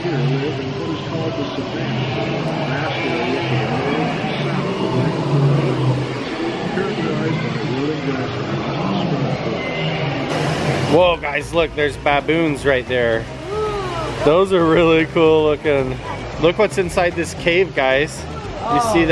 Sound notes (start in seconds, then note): 6.3 animals chattering